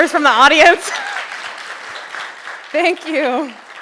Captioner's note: audience applauding